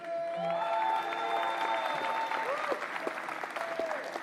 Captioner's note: applause